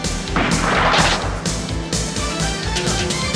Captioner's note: guns firing